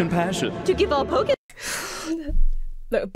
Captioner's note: sucks teeth